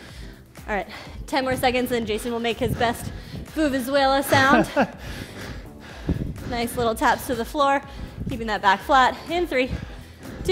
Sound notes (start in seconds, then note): 4.0 breathes heavily; 4.2 laughs